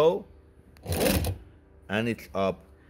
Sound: machine whirs

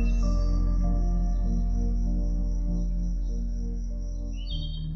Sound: birds chirping

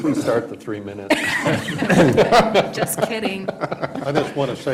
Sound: laughter

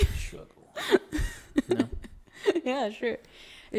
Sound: laughs

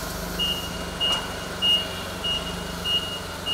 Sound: beeping

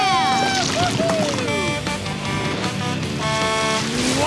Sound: honking

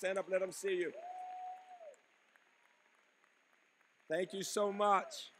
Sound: applause

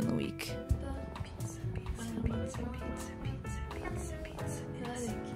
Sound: whispers

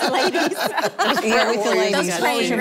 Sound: laughter

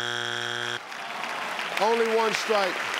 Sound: buzzer beeping; crowd clapping

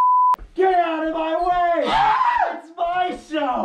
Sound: dysfunctional screaming

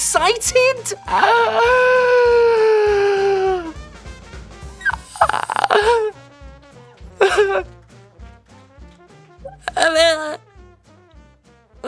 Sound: squeaking becomes crying

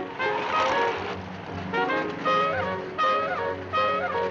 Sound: engine rumbling

